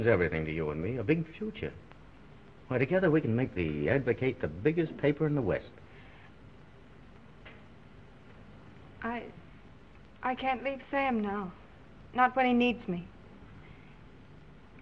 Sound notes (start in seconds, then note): none